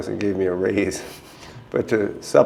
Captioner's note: chuckle